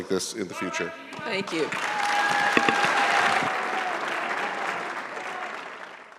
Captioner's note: audience applauding